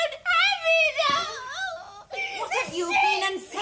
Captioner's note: sobs